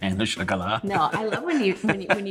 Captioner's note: Dean laughs